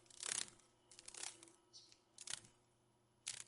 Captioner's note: sounds of a dragon fly